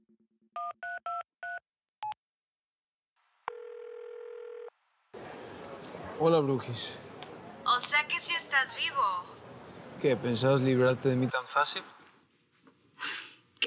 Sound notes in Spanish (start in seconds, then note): 3.5 Sonido al marcar; 5.7 Suena el celular